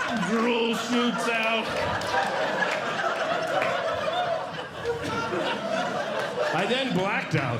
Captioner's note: audience Laughing